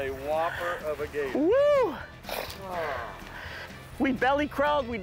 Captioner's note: cheering